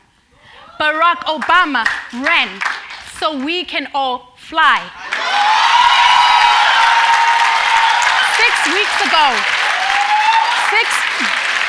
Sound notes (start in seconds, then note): 5.0 cheers and Applause